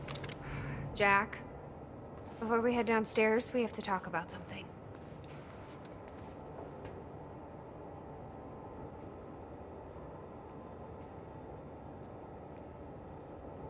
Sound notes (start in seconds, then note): 0.4 sighs